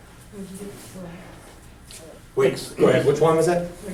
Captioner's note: voiceover